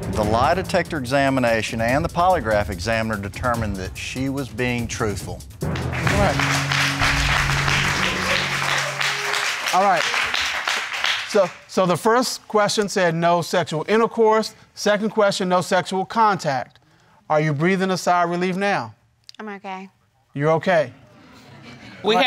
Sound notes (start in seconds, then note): 5.6 crowd applauding